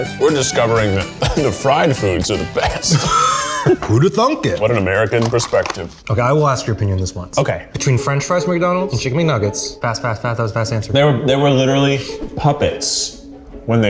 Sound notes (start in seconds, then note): 0.7 laughing